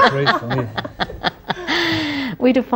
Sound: laughter

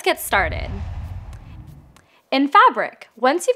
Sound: logo swooshes

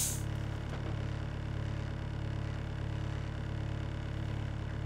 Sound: forklift engine roaring

